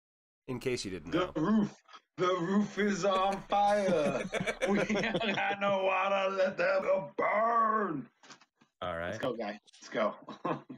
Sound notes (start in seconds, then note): 3.0 chuckling; 7.2 chuckling